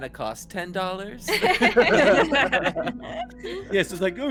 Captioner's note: laughs